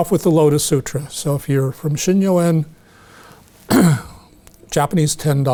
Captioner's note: clears throat